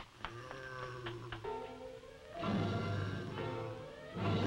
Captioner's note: Popoca groaning